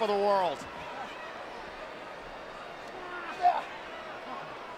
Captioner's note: crowd murmuring